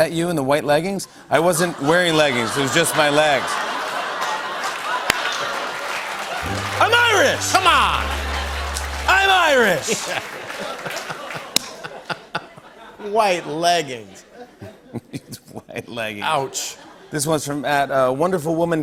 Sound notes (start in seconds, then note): 3.1 laughter, applause; 9.5 laughs